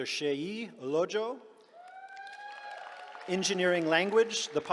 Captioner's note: cheering